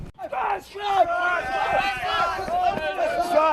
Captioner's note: shouting